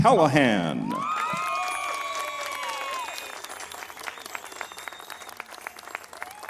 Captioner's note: crowd applauding; crowd cheering